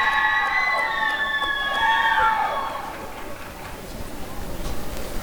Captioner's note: applause and cheering